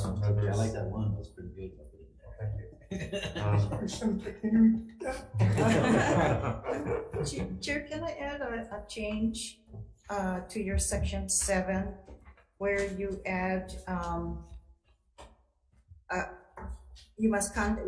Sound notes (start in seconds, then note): 2.2 laughing